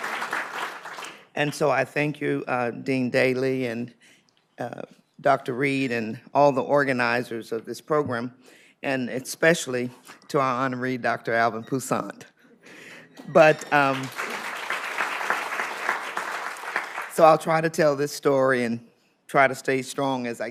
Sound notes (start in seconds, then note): 13.2 applause